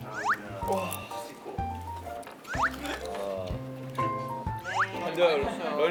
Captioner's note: wrapping and wrapping